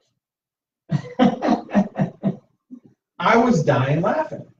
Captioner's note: laughter